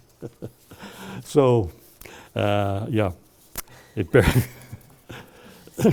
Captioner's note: chuckles; laughs